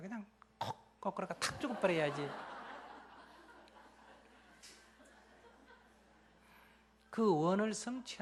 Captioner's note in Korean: 청중 웃음